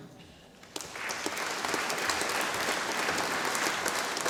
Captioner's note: audience applauding